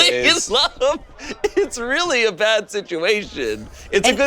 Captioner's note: laughs